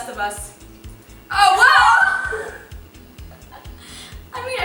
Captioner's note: screams